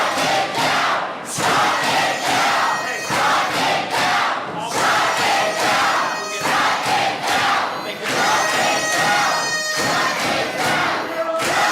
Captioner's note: audience chanting shut it down